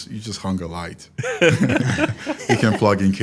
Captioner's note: participants laugh